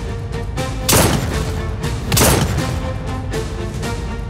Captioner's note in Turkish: Silah sesi